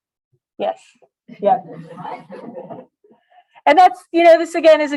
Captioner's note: laughter